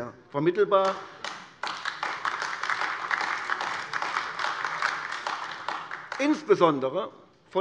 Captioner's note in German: Beifall AfD